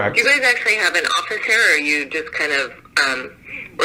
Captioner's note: on phone